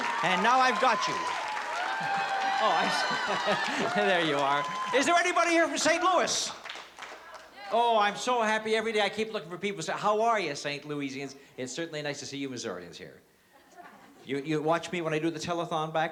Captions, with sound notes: And now, I've got you. Oh, I'm so-- [LAUGHS] there you are. Is there anybody here from St. Louis? Oh, I'm so happy. Every day, I keep looking for people to say, how are you, St. Louisians? It's certainly nice to see you Missourians here. You watch me when I do the telethon back